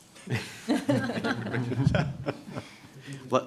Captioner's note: laughter